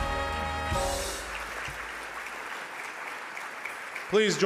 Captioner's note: audience applause